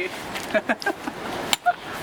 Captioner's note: laughing